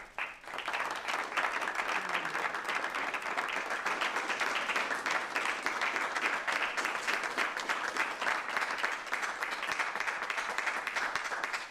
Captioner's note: applause